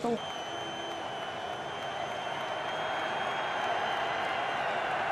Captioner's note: cheering